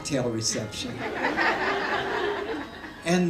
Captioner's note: laughter